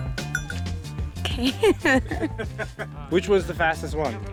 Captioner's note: laughing